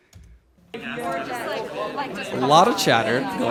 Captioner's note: students chatting indistinctly